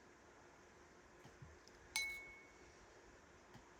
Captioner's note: ding